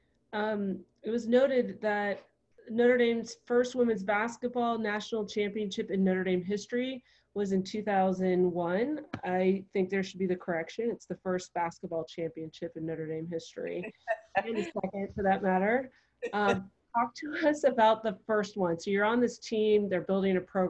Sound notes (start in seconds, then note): 15.8 laughter